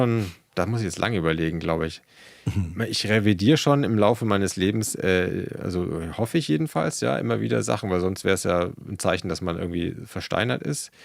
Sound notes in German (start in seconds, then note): 2.4 räuspern